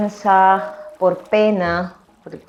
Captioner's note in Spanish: sonidos de agua, aparece cuadrado con palabras